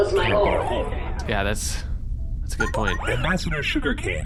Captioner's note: incoming message chimes